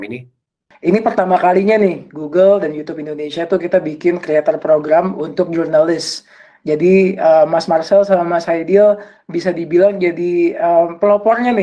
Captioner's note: non-english speech